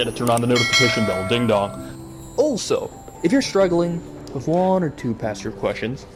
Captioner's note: ding dong